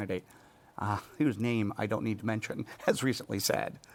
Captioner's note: chuckles